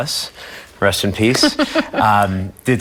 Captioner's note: laughing